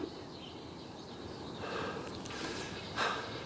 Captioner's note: birds chirping